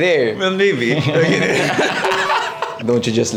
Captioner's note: laughs